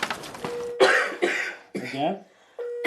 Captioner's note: patient coughing